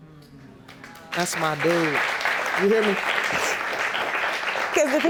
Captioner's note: audience applauding